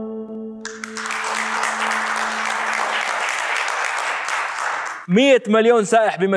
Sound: clapping

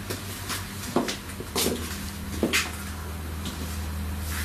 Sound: footsteps

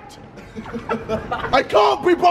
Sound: laughing

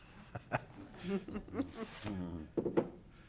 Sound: laughing

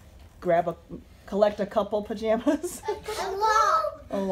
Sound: laughing

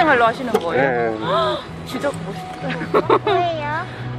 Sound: laugh

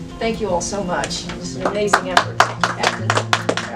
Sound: clapping

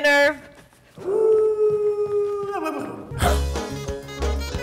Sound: person howls like dog; person barking to beat; whimsical folk music

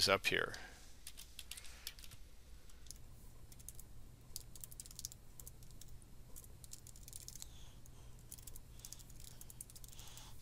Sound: sound of typing

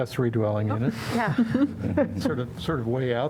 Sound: laughter

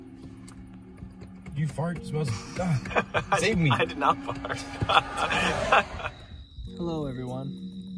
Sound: laughs

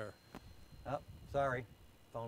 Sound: telephone rings

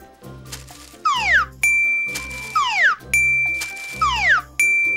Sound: chiming

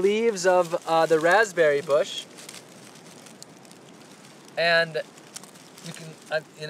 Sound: rustling sounds

